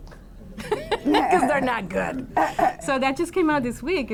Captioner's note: laughs